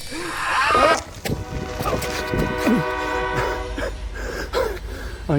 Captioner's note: portal sound